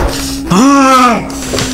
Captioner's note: rage